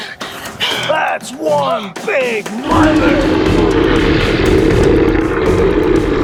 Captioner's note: gasping; creature snarling